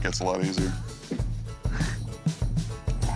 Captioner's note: chuckling